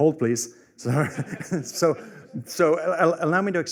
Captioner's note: laughter